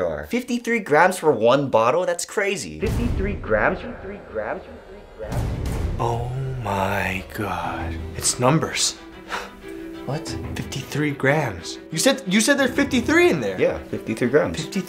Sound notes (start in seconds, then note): 2.9 echoing